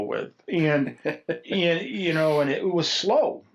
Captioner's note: laughs